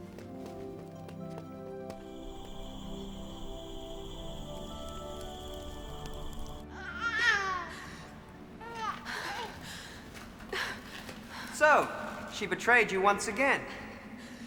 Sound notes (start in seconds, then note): 6.7 baby cries